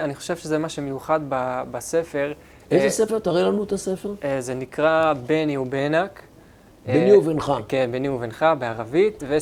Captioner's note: in Arabic